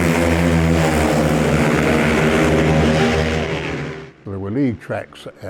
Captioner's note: bikes droning